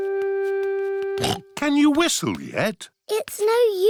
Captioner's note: snorts